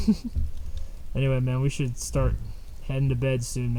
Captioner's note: laughs